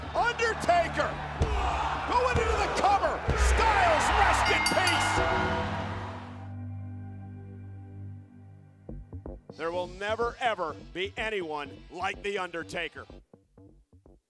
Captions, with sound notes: Undertaker going into the cover! One, two, three! Styles, rest in peace! (bell clanging) There will never ever be anyone like the Undertaker.